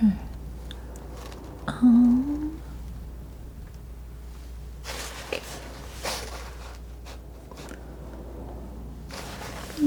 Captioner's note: scraping